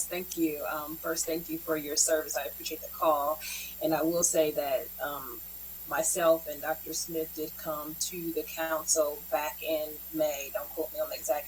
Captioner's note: spanish